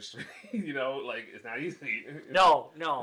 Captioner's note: laughs